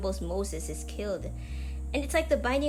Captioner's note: deep inhale